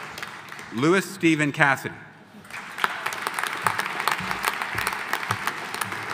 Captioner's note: audience applauding